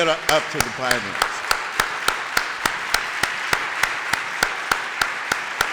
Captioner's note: applause